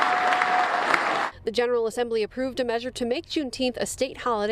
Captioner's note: claps